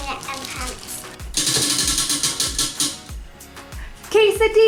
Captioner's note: wheel clicks